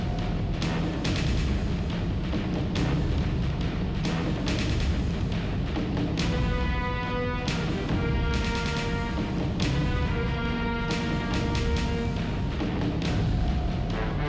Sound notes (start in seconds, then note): none